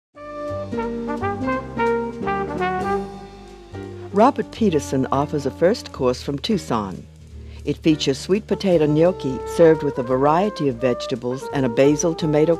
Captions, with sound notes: (upbeat music) - [Voiceover] Robert Petersen offers a first course from Tucson. It features sweet potato gnocchi served with a variety of vegetables and a basil tomato cream sauce.